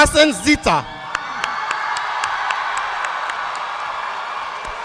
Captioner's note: audience cheering